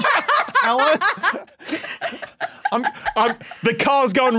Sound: group laughs uproariously; giggles profusely

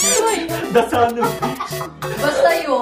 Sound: laughing at Julianna's answer

